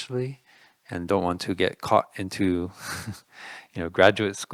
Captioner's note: laughing